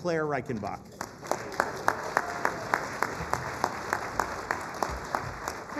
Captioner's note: applause